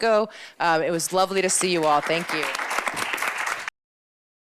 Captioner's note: applause